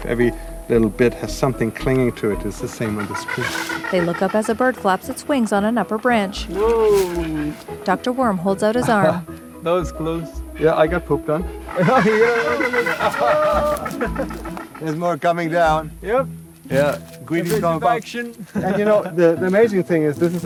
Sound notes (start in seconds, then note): 3.6 bird calling; 8.0 laughing; 11.5 bird calling; 13.6 laughing